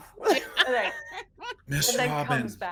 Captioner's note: people chuckling